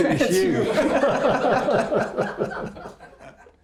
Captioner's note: laughing